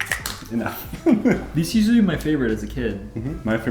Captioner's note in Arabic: يضحك